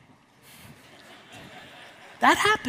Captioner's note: audience laughs